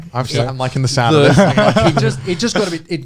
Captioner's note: laughing